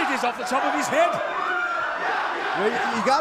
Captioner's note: fans chanting